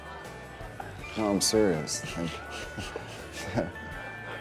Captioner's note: laughs; Drew chuckling